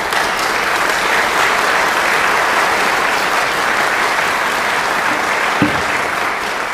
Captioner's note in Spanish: Aplauso